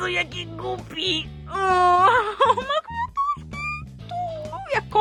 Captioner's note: squeaks